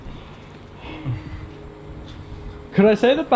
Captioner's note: panting